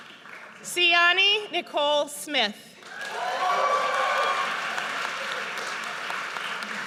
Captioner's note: audience cheers